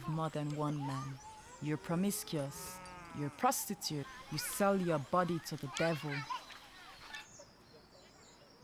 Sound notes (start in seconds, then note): 6.4 birds chirping